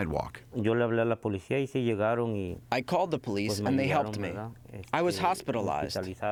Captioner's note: through translator